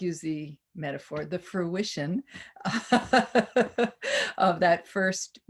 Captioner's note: laughs